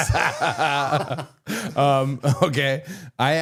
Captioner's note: both laughing